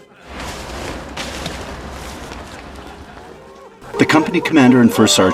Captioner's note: sound of radio playing music and men laughing